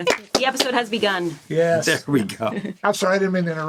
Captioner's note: laughing